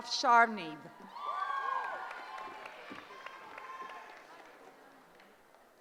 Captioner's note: cheering